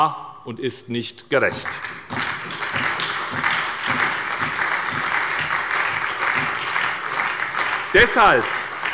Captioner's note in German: Beifall bei der SPD und dem BÜNDNIS 90/DIE GRÜNEN